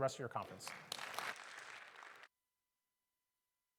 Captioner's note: audience clapping